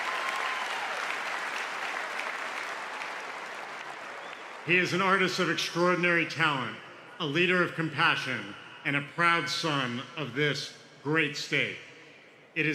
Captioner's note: cheers and applause